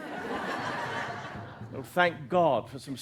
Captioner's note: laughter